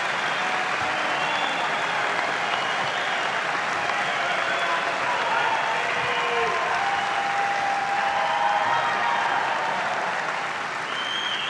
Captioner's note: cheers and applause